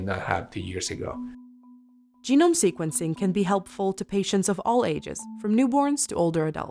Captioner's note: voiceover